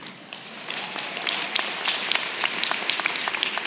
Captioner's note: applause